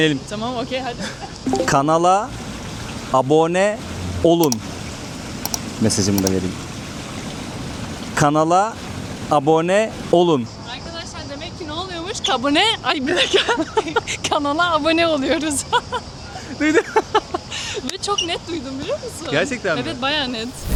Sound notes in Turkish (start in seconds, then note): 13.0 kahkaha